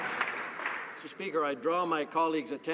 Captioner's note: some Applause